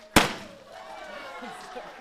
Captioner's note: crowd cheering; confetti popper popping